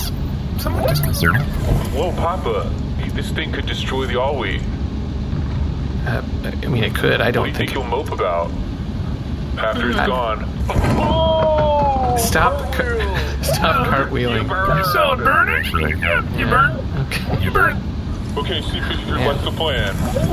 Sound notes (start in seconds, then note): 10.3 shouting